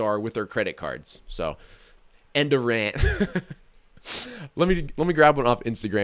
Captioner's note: laughs